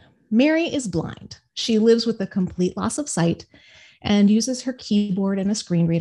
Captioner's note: none